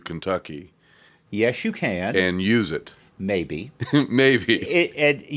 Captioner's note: laughs